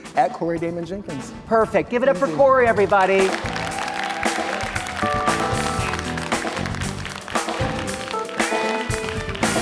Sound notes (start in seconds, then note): 2.8 audience applauding; 7.0 calm music